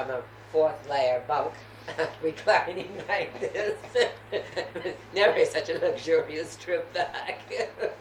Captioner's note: laughter